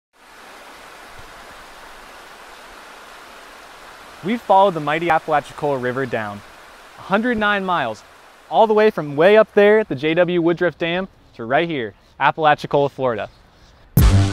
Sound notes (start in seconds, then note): 0.4 water rushing; 14.0 rhythmic rock music